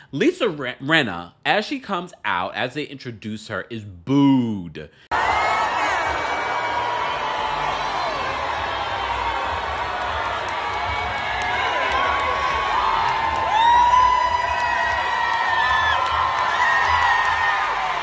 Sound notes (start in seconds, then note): 5.1 audience booing; 13.9 audience cheering and booing